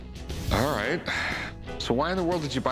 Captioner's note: none